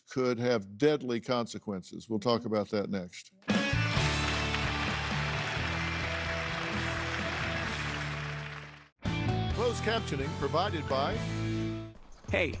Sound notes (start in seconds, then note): 5.7 crowd applauding